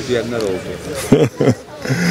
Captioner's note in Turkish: Gülme sesi